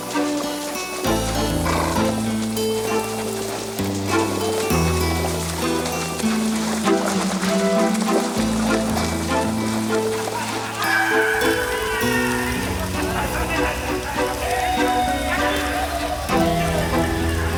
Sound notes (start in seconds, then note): 1.6 horse snorts; 10.8 gang members howl and yell